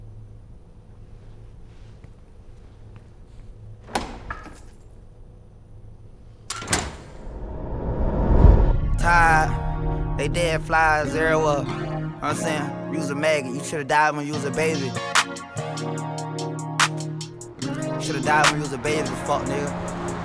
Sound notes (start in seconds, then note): 3.3 door opening; 6.4 door shutting; 7.3 hip hop music